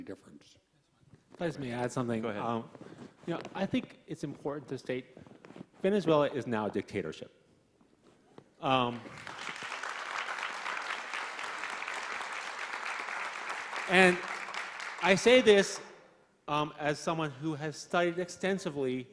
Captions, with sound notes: could make any difference. - Please let me add something. - Go ahead. - I think it's important to state Venezuela is now a dictatorship (applauding) and I say this as someone who has studied extensively